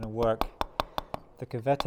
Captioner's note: metal hammering